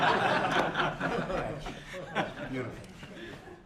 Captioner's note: laughter